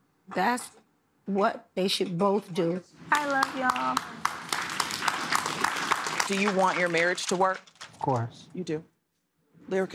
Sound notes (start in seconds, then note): 5.1 applause